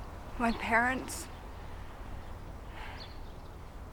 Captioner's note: sighs